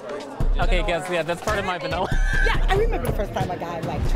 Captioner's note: laughing